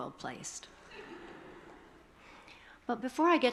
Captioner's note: attendees chuckling